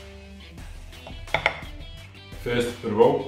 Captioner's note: spoon taps on bowl